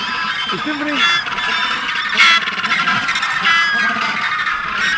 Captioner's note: penguins screeching